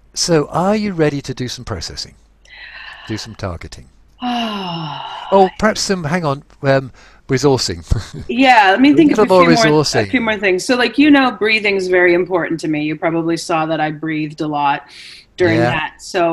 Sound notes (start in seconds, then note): 4.2 sighs; 7.3 chuckles